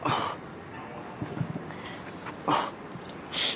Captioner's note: grunts in pain